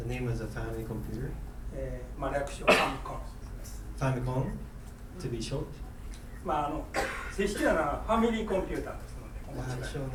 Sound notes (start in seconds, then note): 2.0 speaking in foreign language; 2.6 coughing; 6.5 speaking in foreign language; 6.9 coughing